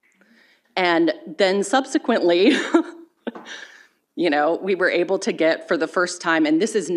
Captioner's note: chuckles